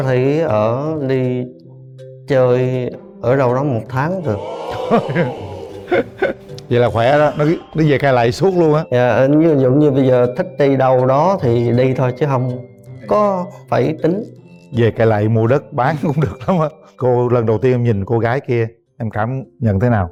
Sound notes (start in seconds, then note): 4.2 laughs